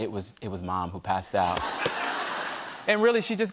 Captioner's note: laughter